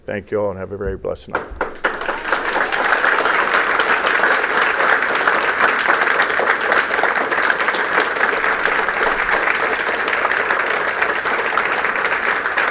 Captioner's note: applause